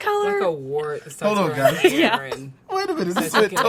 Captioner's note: laughs